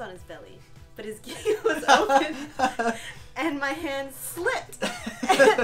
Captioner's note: laughter